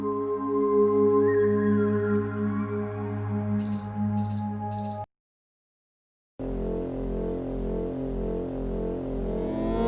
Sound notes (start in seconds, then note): 3.6 beeping